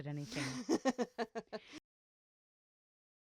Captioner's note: laughs